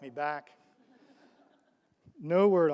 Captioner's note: audience laughs